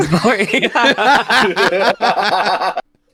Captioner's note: laughing